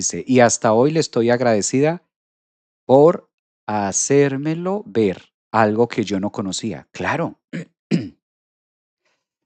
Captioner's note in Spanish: carraspeo